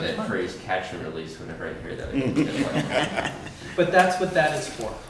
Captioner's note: laughter